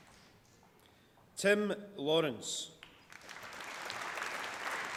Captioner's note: applause